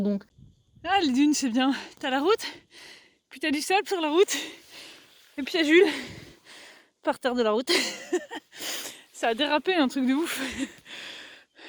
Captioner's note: laughs